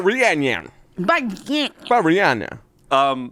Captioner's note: grumbles